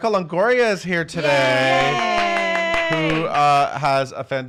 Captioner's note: claps